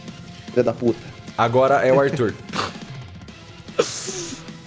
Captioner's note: laughs